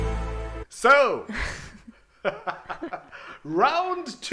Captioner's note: both laugh